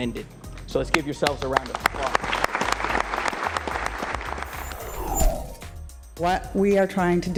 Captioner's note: applause